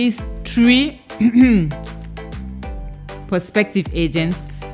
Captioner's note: light coughing